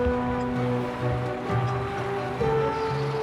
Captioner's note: reel screeching